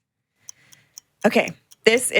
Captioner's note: clock ticking